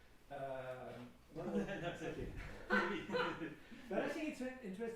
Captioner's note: laughing